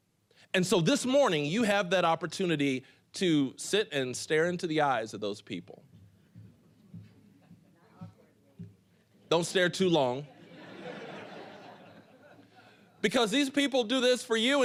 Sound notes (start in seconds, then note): 10.3 audience laughing